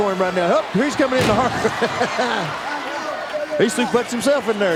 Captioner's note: chuckling